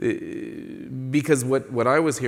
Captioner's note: none